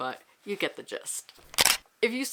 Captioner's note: camera shutter